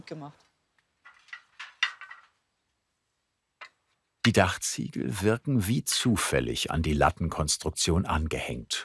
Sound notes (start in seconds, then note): 0.8 rattling